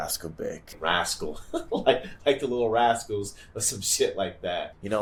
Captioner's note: laugh